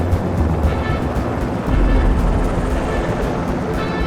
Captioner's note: helicopter roars